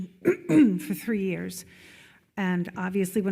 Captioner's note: clears throat